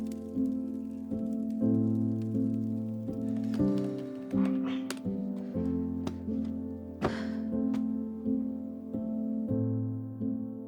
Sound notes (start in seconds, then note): 0.2 gentle music; 7.0 Summer sighs